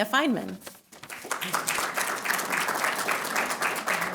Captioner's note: applause